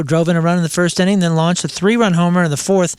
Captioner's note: none